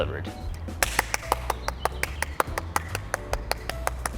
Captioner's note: clapping